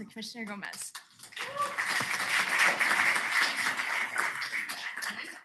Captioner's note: cheering